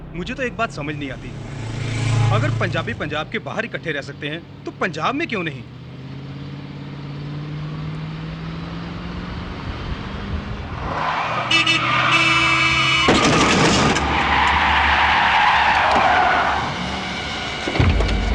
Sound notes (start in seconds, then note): 11.3 horn Honking; 15.3 tire Screeching